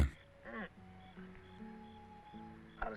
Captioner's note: groaning